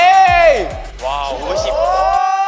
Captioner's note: impressed